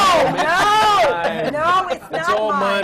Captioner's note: laughter